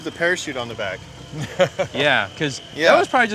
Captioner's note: laughs